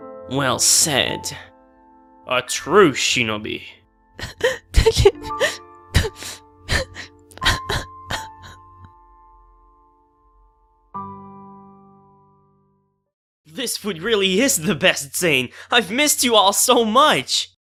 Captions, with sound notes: Well said... A true shinobi... *Cries* This food really is the best, Zane! I've missed you all so much!